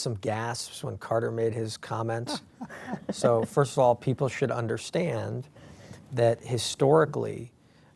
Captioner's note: laughter